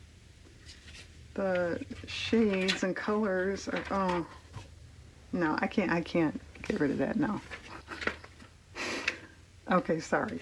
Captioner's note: laughs